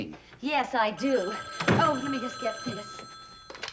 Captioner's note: phone ringing